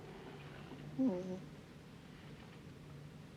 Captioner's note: cries